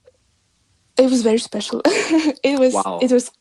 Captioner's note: giggles